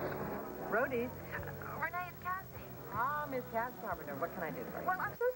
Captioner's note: telephone rings